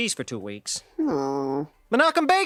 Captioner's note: Bart groans